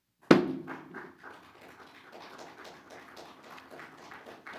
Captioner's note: audience clapping